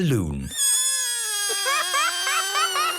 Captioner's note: balloon air squealing